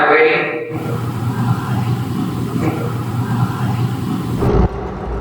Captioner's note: ghostly whispering